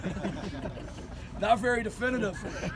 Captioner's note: laughing